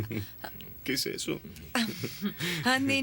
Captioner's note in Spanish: Risos